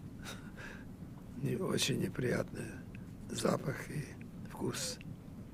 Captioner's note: laughing